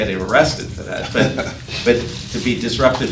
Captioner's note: laughing